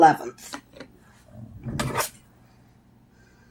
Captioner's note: sounds of tools being moved